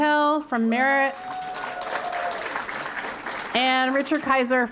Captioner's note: applause